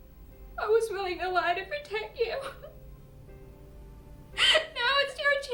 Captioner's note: crying